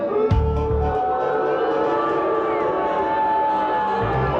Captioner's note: audience boos